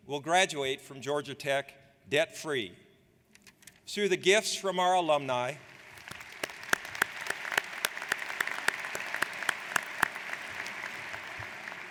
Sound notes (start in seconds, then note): 5.6 audience applauds